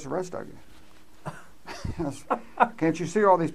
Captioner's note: laughs